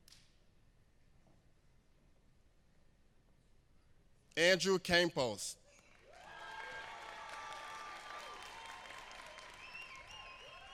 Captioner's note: applause